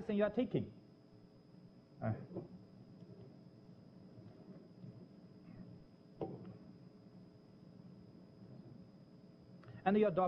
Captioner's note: pause